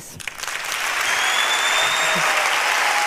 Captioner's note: applause